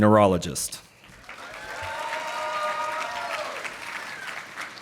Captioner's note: audience applauding